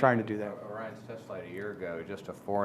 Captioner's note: speaking off mic